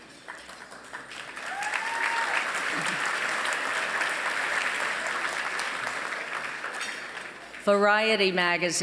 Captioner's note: applause